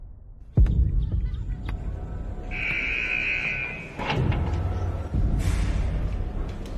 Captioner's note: tense music; buzzer buzzing